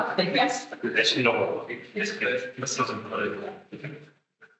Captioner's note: attendees chattering